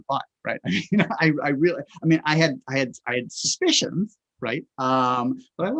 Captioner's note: chuckles